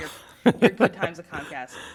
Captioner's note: laughter